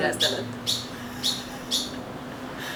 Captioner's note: laughs